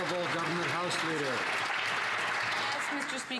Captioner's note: some Applause